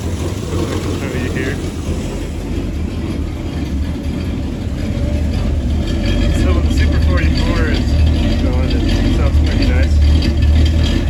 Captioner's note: engine Noise